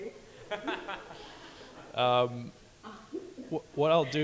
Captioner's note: audience laughing